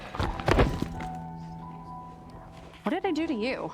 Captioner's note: body thuds